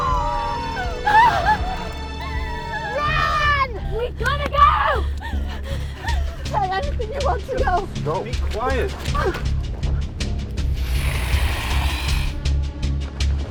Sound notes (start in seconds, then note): 0.0 both cry; 10.6 dragon growls